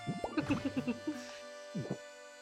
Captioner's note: giggles